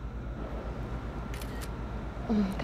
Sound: shutter sound

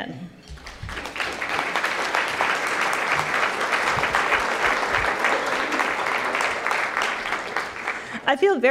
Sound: applause

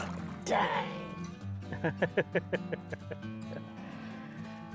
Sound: laughing

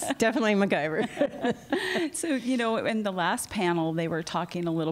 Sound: laughter

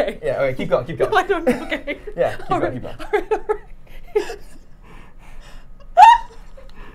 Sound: laughing

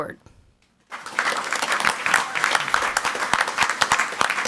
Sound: crowd clapping

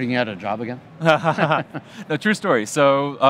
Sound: laughs

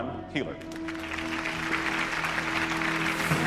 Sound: applause

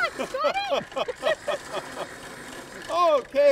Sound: both laugh

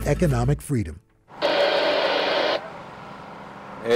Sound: radio static

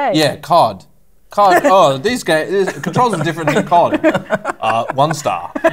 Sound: mocking

